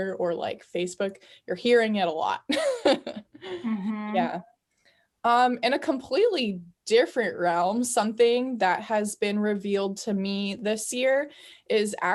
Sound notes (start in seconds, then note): 2.5 laughing